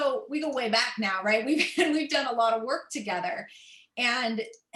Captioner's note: laughter